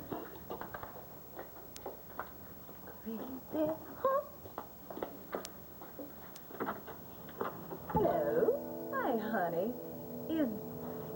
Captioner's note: knock on door